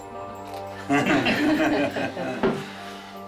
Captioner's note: laughter